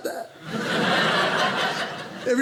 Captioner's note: audience laughing